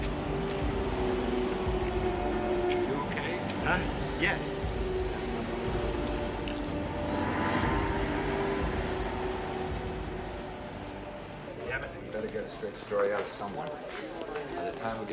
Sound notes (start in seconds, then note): 0.9 dramatic music; 0.9 vehicle whirring; 7.0 dramatic music; 7.0 vehicles whirring